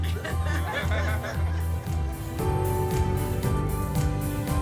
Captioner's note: family laughing